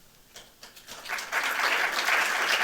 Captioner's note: applause